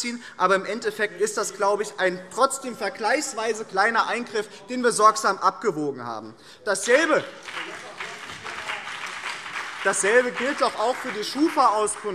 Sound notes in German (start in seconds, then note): 7.2 Beifall BÜNDNIS 90/DIE GRÜNEN und vereinzelt CDU